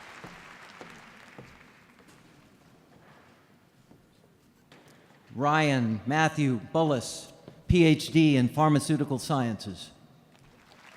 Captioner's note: applause